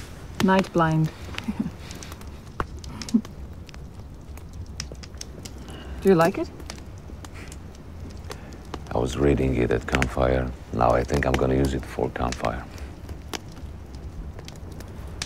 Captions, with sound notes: Nightblind. [chuckling] Do you like it? I was reading it at campfire. Now, I think I am going to use it for campfire.